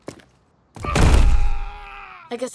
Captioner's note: knight screams